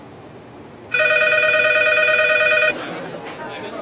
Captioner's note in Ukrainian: Дзвінок